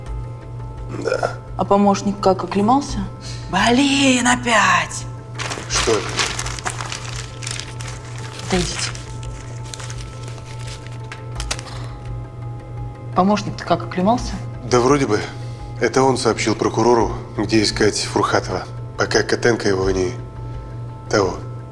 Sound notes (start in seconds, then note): 5.3 paper rustling